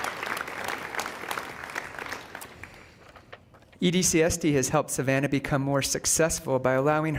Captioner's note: applause